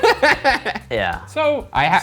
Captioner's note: laughs